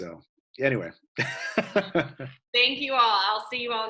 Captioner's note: laughs